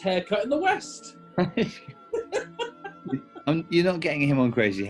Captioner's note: laughter